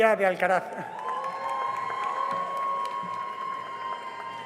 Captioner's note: cheering and applause